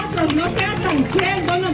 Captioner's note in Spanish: aplausos